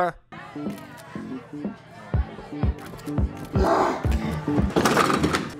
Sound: camera shutter snaps; clattering

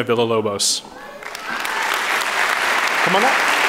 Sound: audience clapping

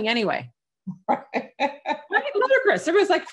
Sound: chuckles

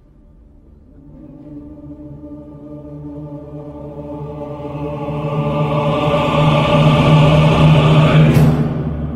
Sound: ominous voices and rumbling building to a cresendo

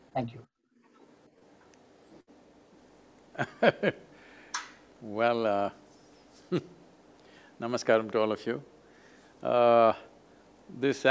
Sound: laughs

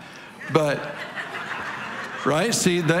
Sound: congregation laughing

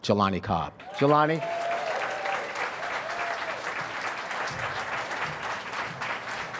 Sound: audience cheers and applauds

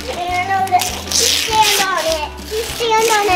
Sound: overlapping chatter

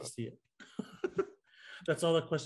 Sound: chuckling

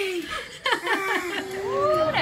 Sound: laughing

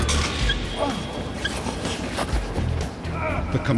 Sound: grunting

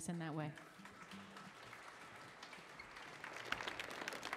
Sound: audience applauding

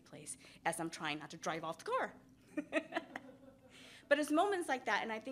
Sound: laughs

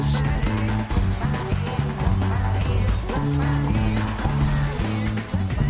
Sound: TV noises

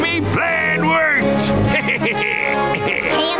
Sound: giggling

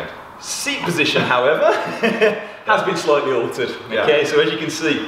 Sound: laughs

